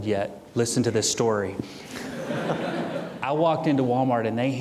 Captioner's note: audience chuckling